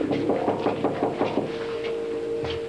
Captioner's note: On cogne à la porte